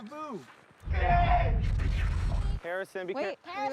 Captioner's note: screaming